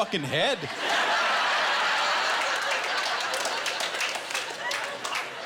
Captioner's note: laughter